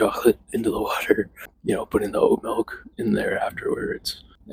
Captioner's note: chuckles